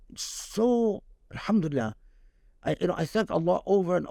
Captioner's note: speaking Arabic